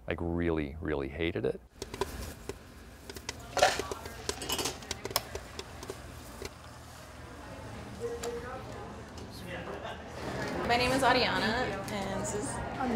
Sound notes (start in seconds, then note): 1.7 popcorn popping; 7.9 crowd chatter